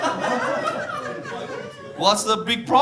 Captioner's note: audience laughing